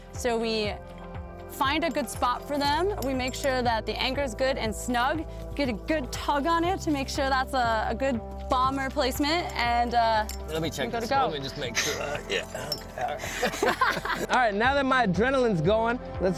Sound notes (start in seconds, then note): 13.7 laugh